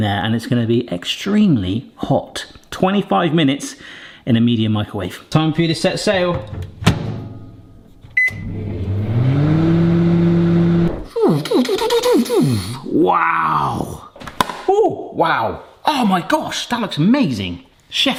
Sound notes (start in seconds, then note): 8.1 beep; 8.2 machine hums; 11.0 vocalises